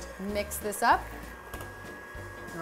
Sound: mixer whirring

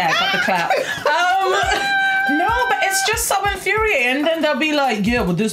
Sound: laughs

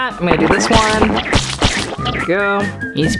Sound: squirting

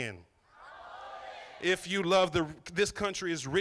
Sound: crowd

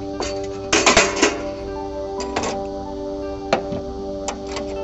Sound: ambient music; metal clanking; ambient music

